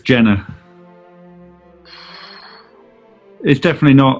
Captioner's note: exhales